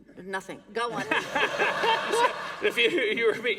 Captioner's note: laughter